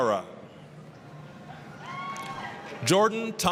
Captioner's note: applause, cheering